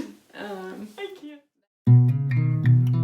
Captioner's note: laughing